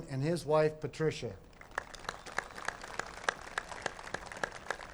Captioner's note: applause